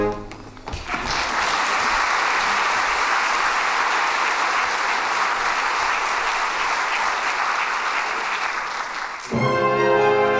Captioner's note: applause